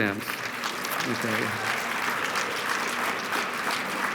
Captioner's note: applause